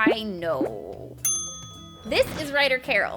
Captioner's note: ding